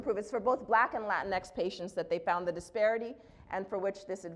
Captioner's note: none